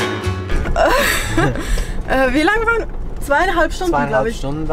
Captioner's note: tired laughter